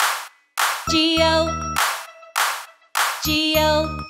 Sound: clap; clap

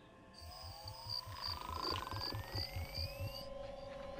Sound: croaking

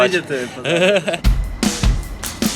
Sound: laugh

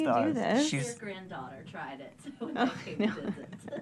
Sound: voice muffled

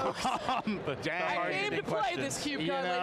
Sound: laughing

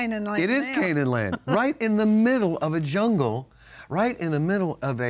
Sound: laughs

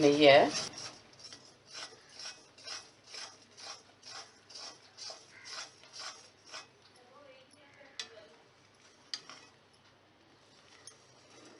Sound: stirring sound

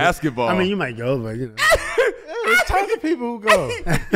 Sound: laughs

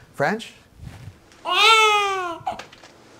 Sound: baby cries

